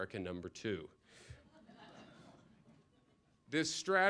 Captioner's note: laughter